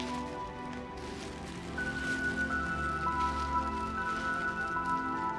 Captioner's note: plastic crinkling